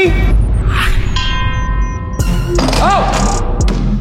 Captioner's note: ding